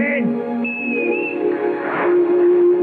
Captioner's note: whistle